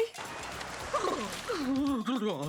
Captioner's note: shivering; all laughing